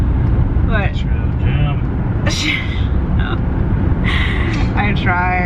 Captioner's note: laughing